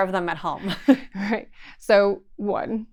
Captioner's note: chuckles